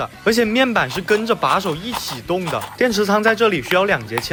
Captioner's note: steps/steps/etc